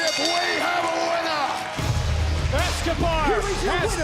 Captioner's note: bell rings